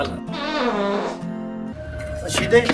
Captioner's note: fart